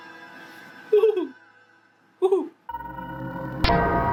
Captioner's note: mimics horse neighing; theme music playing